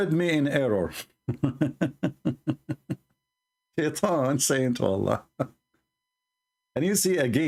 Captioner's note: Ketawa